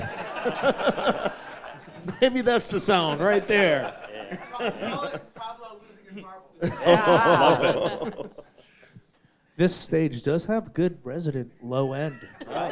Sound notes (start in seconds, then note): 0.0 all laughing; 6.6 all laugh